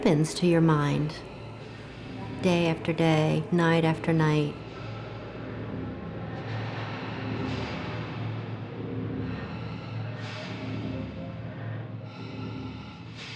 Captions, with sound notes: What happens to your mind day after day, night after night? (machine expelling air, voices echoing in distance)